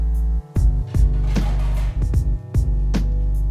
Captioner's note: kitchen pots rattling